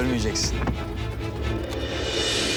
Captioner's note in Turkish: Kapı açılma sesi